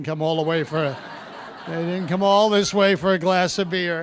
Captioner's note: audience laughing